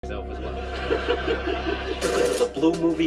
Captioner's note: laughter